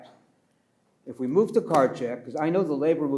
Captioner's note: pats table